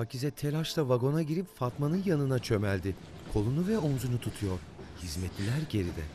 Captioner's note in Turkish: Nefes sesi